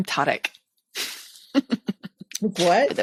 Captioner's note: laughs